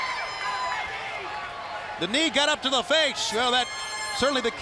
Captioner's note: crowd cheering